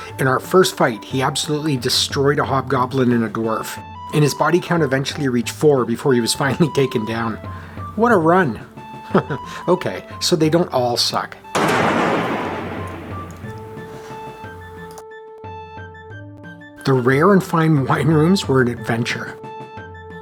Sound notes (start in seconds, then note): 9.1 chuckles; 11.5 loud thunk